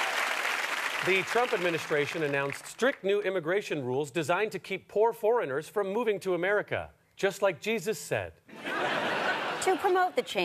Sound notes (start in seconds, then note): 1.5 cheers and applause; 8.5 audience laughter